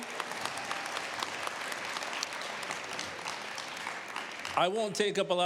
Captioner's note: applause